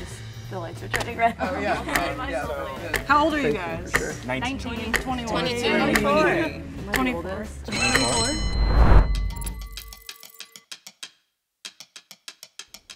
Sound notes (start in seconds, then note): 7.7 bell rings; 9.2 dramatic percussive music